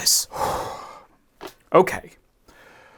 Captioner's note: deep breath